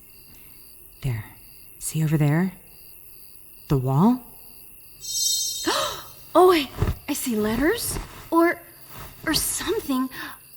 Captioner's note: pause gasp